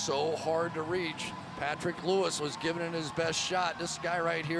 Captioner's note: cheering